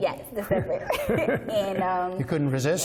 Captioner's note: laughter